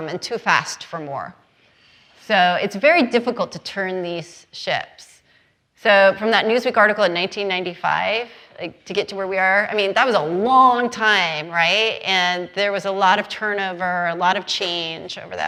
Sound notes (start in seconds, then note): none